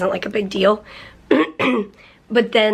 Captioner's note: clears throat